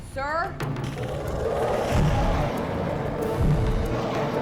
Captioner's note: growling